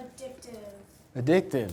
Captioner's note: voiceover